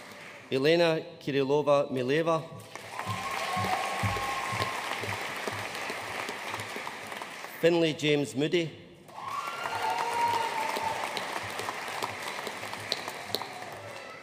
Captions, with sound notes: Elena Kirilova Mileva. (AUDIENCE CHEERING AND APPLAUDING) Finley James Moody. (AUDIENCE CHEERING AND APPLAUDING)